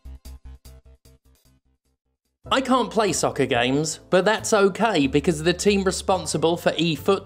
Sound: spoken clearly

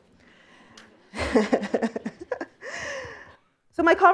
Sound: laughs

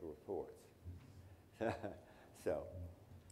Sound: laughs

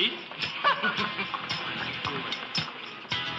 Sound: laughing; upbeat music

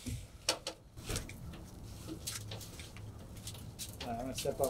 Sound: ladder rattling

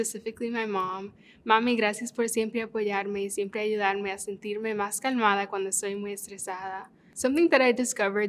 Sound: in Spanish

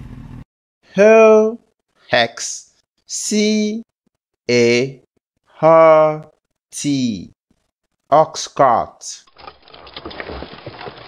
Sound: ox Cart Sound

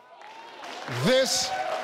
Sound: audience cheering

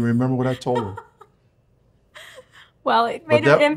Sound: laughs

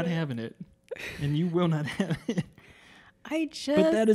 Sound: laughing

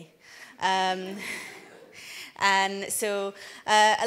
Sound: audience laughs

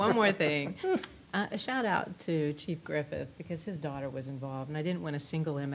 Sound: laughter

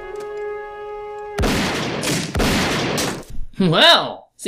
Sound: gunshots

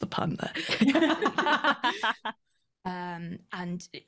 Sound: laughter

